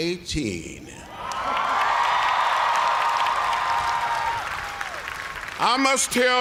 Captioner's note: cheers and applause